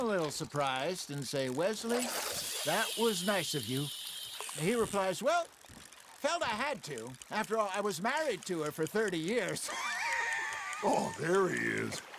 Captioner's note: laughs